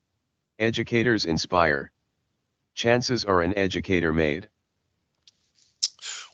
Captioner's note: computer speaking